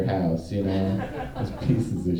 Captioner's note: audience laughing